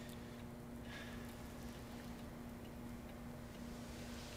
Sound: Mark sighs

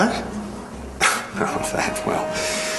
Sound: laughing

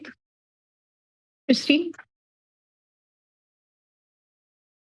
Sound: pause

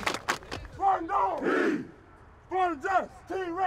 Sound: chanting

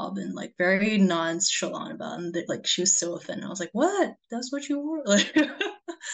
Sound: laughs

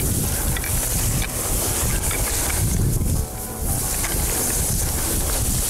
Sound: grass rustling, wind blowing

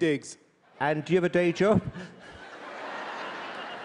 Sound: laughter; laughs

